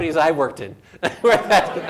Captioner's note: laughs